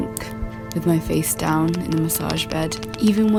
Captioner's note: sound of fingernails tapping a surface